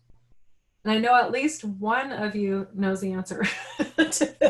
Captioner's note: laughing